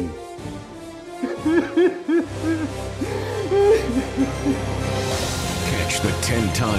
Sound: sobbing

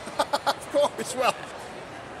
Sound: laughing

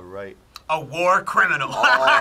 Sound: laughs

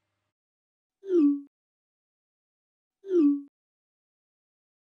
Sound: messages booping

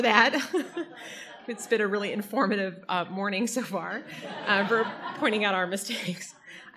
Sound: audience laughter

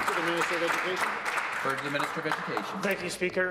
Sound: applause

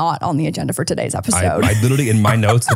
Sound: laughs

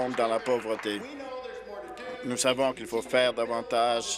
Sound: applause

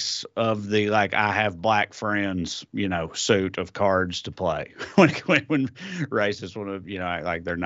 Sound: laugh

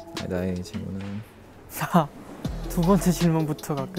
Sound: haha

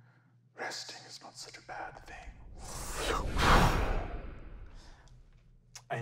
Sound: wooshing

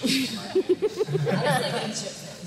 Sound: laughter

